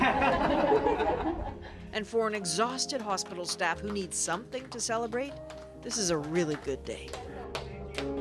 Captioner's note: applause